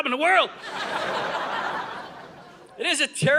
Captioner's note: audience laughing